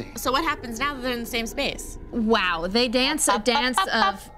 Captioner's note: none